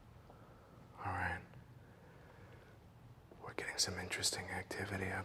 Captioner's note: whispers